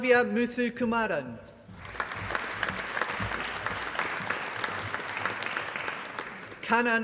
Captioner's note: applause